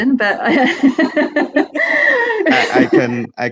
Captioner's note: laughs loudly